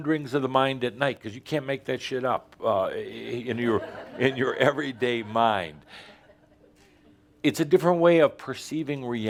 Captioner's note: a few chuckles